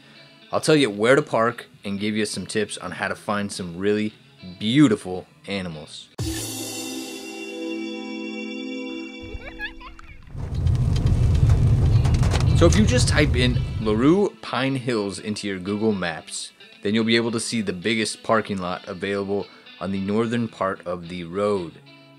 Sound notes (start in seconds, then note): 6.2 bumper music; 10.3 rocks hitting car underside